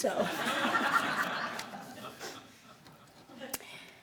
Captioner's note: laughing